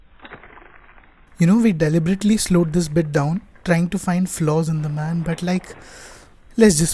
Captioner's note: sigh